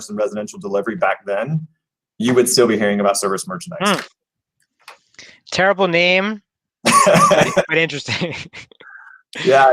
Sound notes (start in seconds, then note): 7.0 laughing